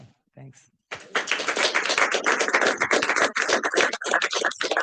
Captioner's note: audience applauding